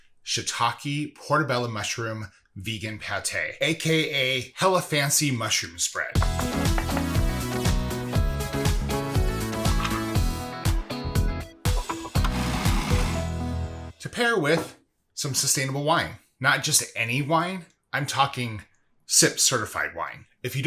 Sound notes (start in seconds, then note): 6.2 knife chopping; 7.7 upbeat music; 11.8 food processor whizzing